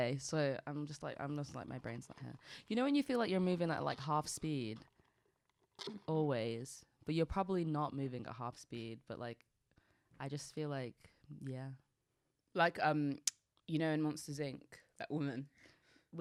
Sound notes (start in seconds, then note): none